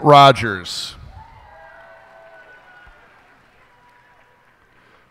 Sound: cheers and applause

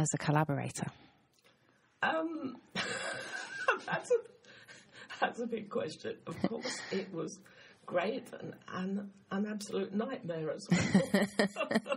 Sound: laughs

